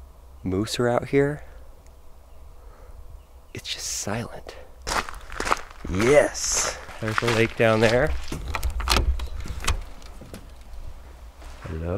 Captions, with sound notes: Moose are out here. It's just silent. (steps crunching) Yes, there's the lake down there! (door opening)